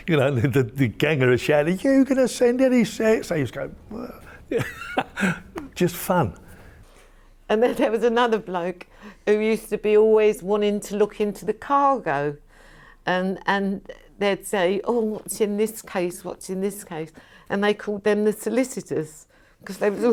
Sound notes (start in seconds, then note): 3.8 laughing